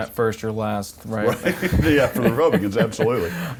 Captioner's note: laughter